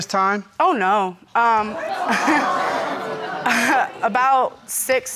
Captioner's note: audience exclaiming; chuckles